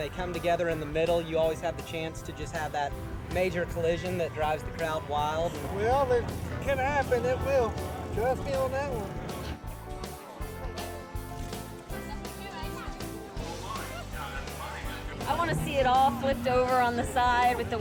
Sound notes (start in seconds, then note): 12.3 crowd chatting